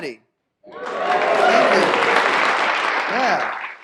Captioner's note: audience applause